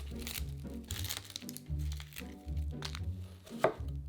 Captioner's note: knife cutting; onion paper rustling